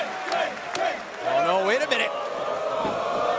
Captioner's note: crowd cheering